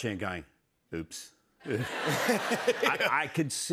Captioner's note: laughter